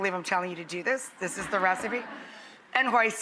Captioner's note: audience laughs